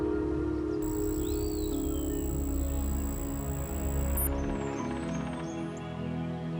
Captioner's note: text beeping; gentle music